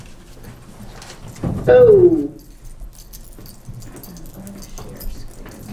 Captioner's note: non-english